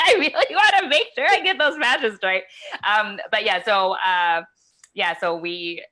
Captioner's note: laughs